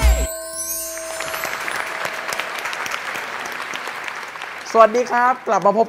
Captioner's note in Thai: ปรบมือ